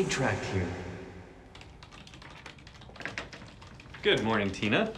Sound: flash back whoosh

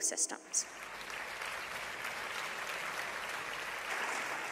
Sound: applauding

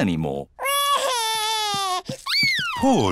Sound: crying

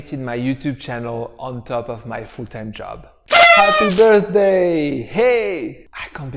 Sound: horns blowing

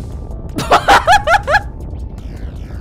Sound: laughs

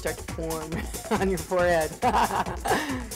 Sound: laughing

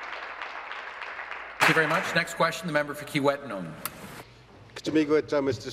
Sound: applause

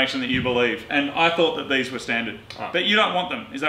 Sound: clicks tongue

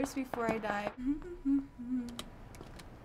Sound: humming

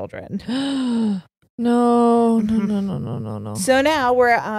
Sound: gasps

